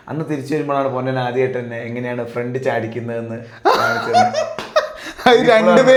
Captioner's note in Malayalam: പൊട്ടിച്ചിരി